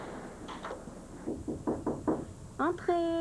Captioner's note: On frappe à la porte